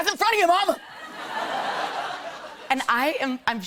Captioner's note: laughter